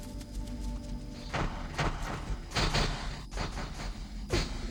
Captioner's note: popping